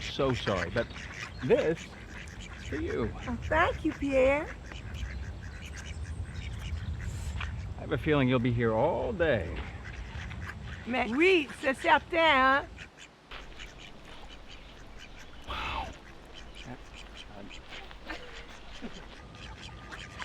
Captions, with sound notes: I'm so sorry, but this is for you. - Oh, thank you Pierre. - I have a feeling you'll be here all day. [Cassie speaking in French] - Wow. [ducks quacking]